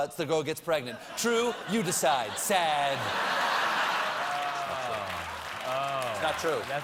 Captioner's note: laughter